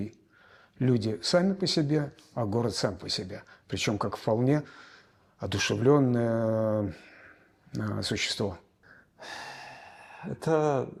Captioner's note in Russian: вздыхает